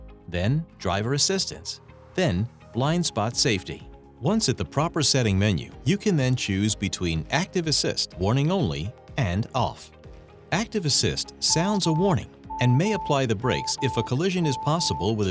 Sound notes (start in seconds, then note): 12.5 system alert beeping